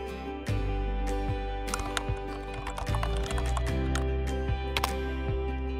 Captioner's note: typing